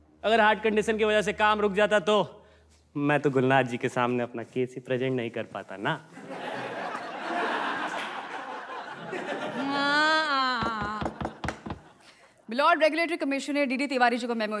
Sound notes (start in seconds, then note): 6.2 All laughs; 10.7 Gavel bangs